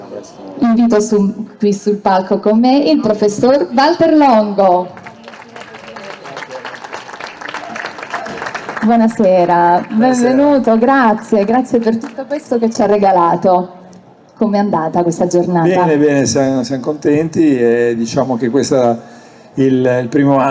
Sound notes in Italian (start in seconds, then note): 4.6 Applauso